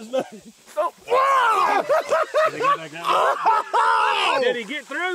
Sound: yelling in pain

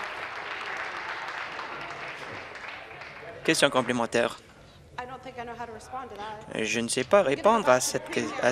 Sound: applause

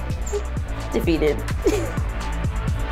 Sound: laughs; pensive music

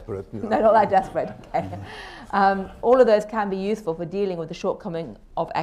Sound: laughter, laughs

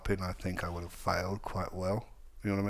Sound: none

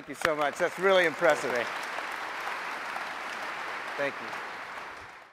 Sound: applause

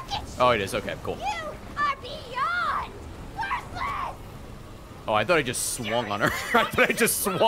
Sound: laughs

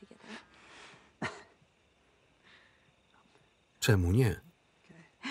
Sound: laughter

